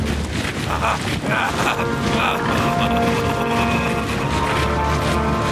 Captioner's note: menacing music; laughing